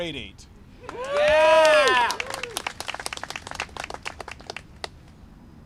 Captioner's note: applause and cheering